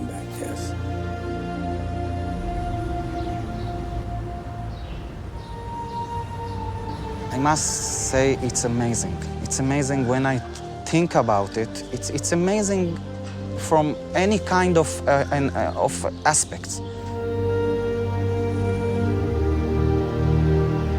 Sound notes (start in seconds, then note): 1.1 birds chirping; 1.1 gentle music continues; 17.3 gentle music continues